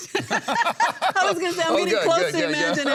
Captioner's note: laughs